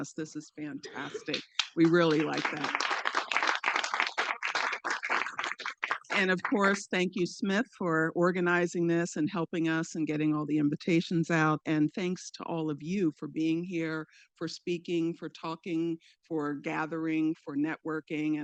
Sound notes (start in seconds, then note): 3.1 participants clapping